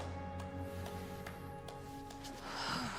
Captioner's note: Kat clapping; Jackie sighs